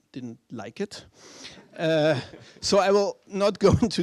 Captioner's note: laughter